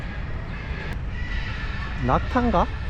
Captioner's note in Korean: 꺄악 꺄악